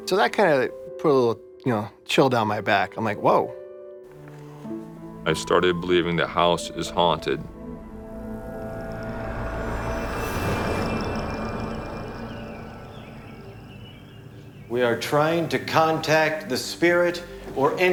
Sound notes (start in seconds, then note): 11.1 birds chirping